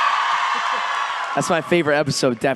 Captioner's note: fan screams